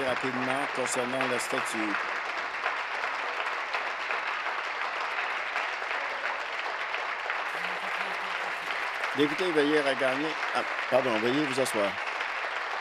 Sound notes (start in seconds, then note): 0.0 some Applause